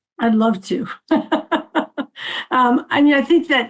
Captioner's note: laughing